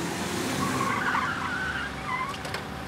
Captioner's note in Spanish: Chirrido de neumáticos